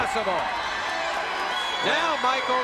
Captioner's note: audience cheering